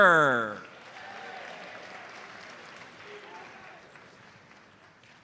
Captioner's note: audience applauds